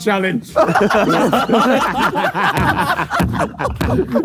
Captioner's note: group laughs